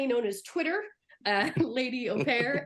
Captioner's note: laughing